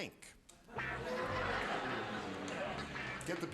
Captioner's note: laughter